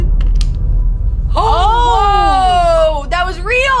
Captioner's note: group exclaiming